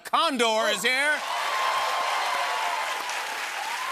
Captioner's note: cheers and applause